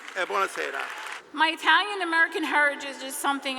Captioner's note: clapping